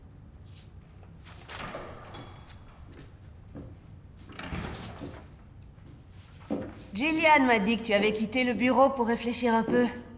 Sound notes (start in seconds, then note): 1.5 door opens; 4.2 door closes